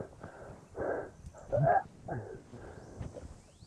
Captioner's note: coughing; panting